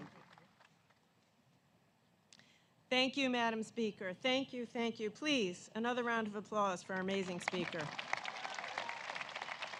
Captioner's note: applause